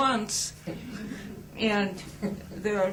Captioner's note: laughter